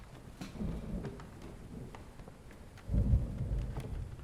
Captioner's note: thunder rolling